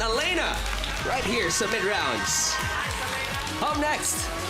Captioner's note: crowd cheers, applauds